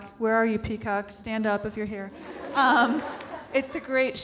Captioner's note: audience laughing